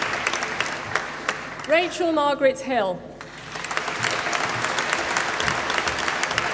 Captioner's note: applause